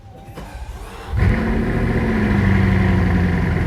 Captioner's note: engine revs